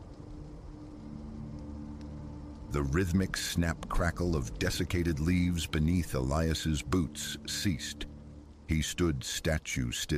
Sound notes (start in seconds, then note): 3.7 snap-crackle